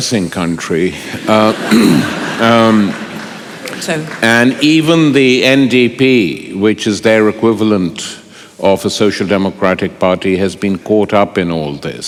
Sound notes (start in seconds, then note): 1.0 laughter